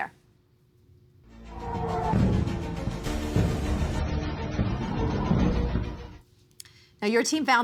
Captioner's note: explosions booming